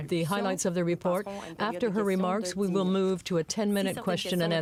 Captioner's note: speaking french